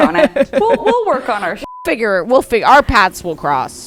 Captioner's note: beep